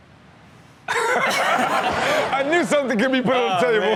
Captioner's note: audience laughs